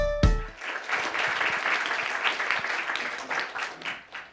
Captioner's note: cheerful music; applauding